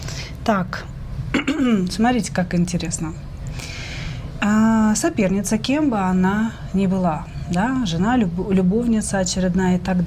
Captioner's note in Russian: откашливается